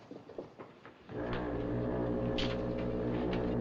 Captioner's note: foghorn Blows